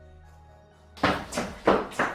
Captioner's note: thud